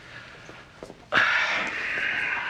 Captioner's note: Joe sighing